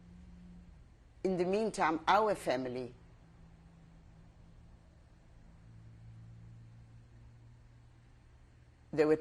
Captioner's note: pauses for 6 seconds